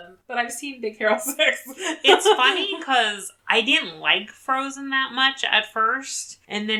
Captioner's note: laughs